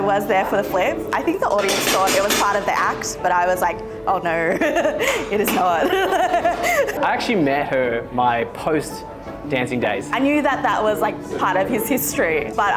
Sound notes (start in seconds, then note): 5.8 laughing